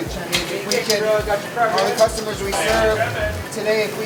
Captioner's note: all conversing amongst each other